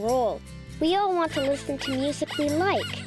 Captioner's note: rabbit squeaking